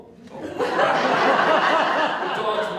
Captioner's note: audience Laughter